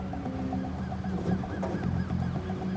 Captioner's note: distant siren wailing